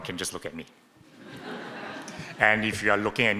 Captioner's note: audience laughing